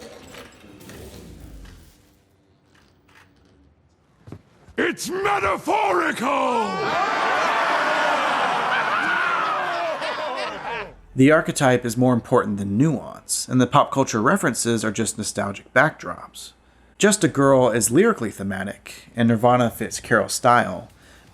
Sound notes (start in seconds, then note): 6.7 jeering